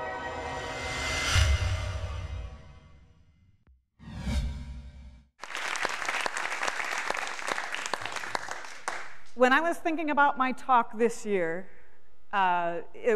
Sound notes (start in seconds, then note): 5.4 audience applause